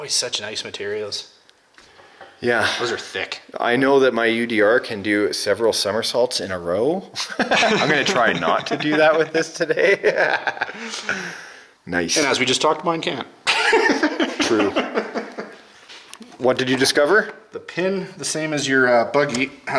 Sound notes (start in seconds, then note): 7.2 laughing; 13.4 laughing